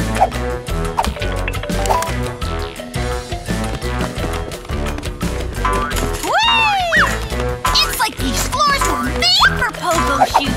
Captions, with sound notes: [phone ringing] [dramatic music playing] Whee! It's like these floors were made for pogo shoes!